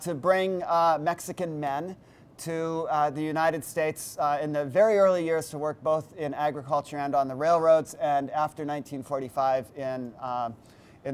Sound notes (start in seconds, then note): none